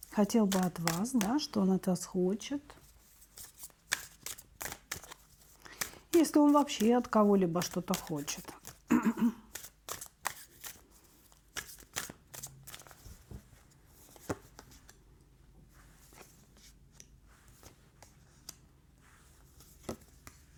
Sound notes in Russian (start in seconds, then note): 12.7 кашель; 13.9 откашливается